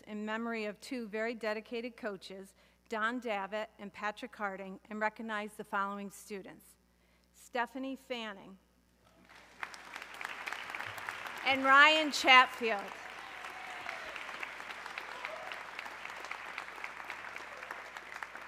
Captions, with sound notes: in memory of two very dedicated coaches, Don Davit and Patrick Harding, and recognize the following students, Stephanie Fanning (audience clapping) and Ryan Chatfield. (audience cheering)